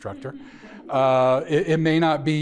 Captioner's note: audience chuckling